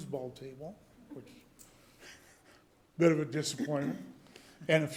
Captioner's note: chuckle